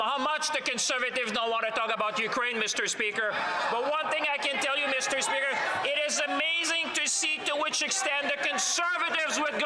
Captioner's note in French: voix de l'interprète